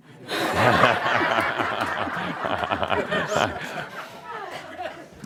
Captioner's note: answers quickly; much laughter